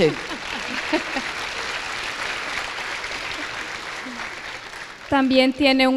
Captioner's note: applause